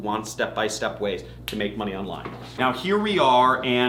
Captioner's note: snapping fingers